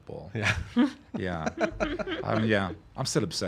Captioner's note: laughing